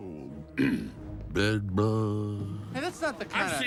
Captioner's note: clears throat